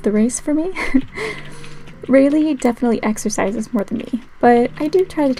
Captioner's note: laugh